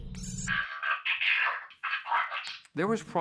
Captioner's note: VOlCE CHATTERlNG MECHANlCALLY